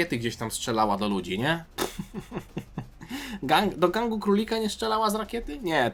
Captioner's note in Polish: śmiech